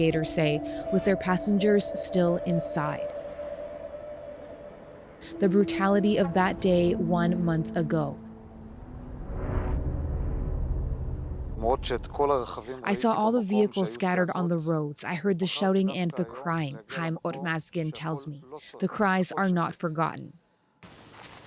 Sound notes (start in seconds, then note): 12.0 speaking alternate language